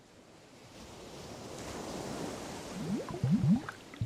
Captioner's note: waves crashing